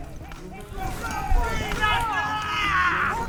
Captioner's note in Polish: krzyki bolszewików, dudnienie końskich kopyt